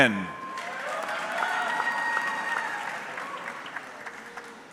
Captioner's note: audience clapping